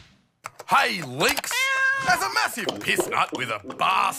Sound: cat meows

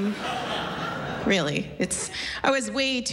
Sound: laughter

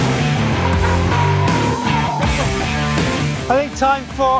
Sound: upbeat rock music; brakes squeaking

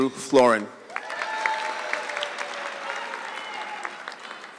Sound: audience clapping

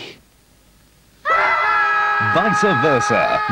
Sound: both scream in horror

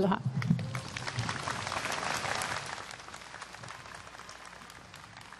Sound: applause

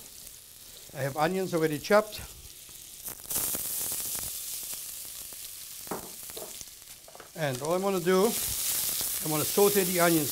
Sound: sizzling

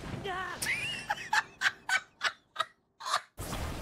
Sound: laughter

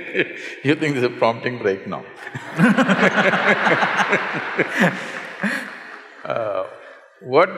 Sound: laughs; laughter

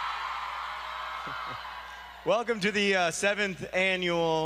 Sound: applause

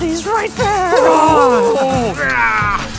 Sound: screaming; Joe growls again and begins to laugh

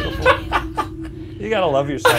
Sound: laughing

